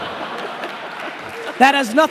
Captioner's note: laughing